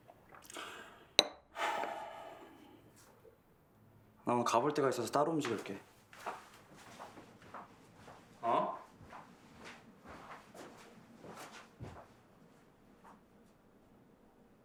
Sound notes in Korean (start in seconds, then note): 1.6 세진 탄식 소리; 6.1 세진 발소리